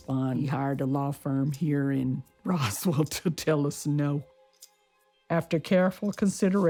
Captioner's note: laughs